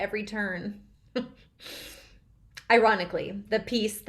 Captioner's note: Lydia laughing